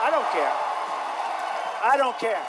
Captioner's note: crowd cheering